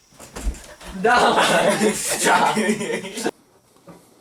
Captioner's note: laughing